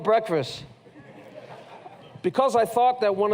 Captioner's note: laughter